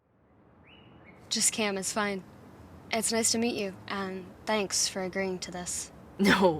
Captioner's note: ambience - outside